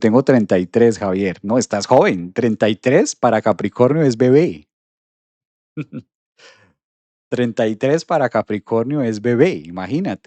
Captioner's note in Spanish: resoplido